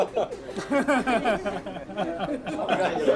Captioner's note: laughter